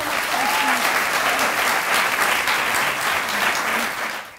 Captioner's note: clapping